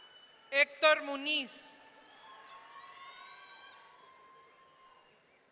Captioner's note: audience cheering